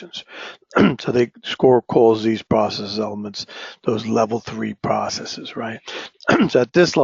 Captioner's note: cough